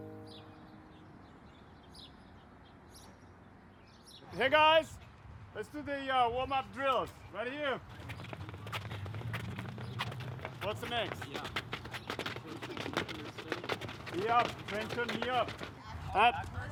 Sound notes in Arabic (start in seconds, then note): 0.0 تغريد الطيور